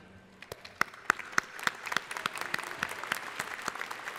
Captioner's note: crowd applauding